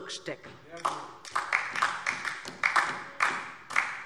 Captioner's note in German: Beifall DIE LINKE